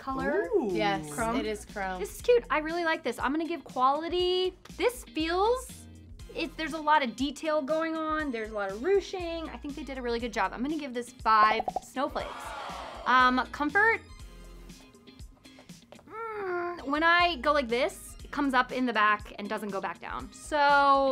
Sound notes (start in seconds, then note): 15.6 groans